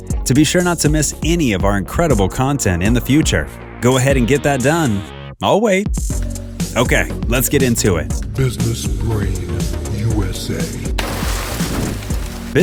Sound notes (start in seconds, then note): 8.3 voiceover; 10.9 water splashing